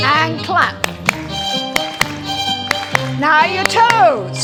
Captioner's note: clapping